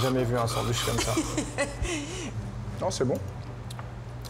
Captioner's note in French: rires